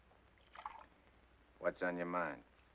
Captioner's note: liquid pours